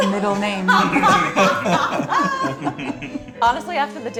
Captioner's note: laughter